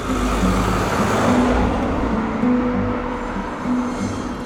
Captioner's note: sound of car passing